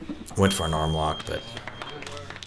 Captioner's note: beep